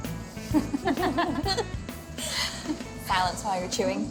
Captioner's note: laughs